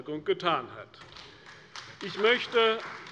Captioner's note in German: Beifall bei der CDU